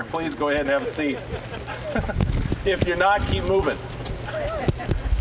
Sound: scattered chuckling; scattered chuckling

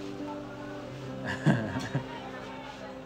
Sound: chuckles

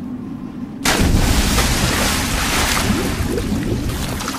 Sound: water splashing

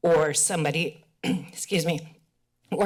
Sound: clears throat

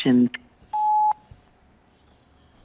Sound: beep

